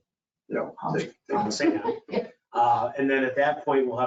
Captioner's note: laughing